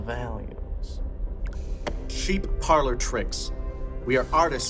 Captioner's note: cigarette fizzles